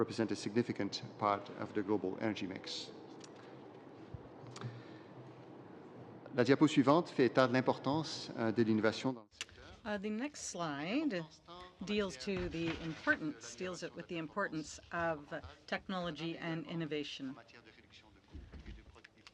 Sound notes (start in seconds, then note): 9.8 speaking French